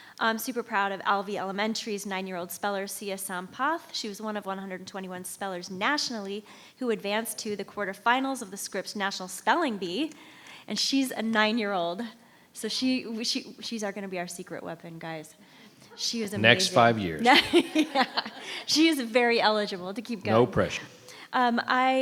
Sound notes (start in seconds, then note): 17.2 members laughs; 17.2 laughs